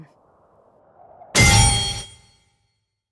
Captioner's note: steel clashes with a shockwave